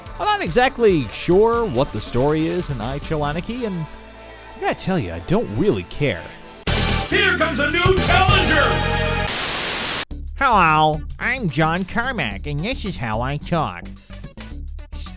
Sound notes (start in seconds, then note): 9.2 TV Static